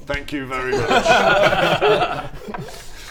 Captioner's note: warm laughs